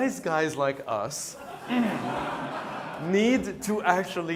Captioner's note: laughter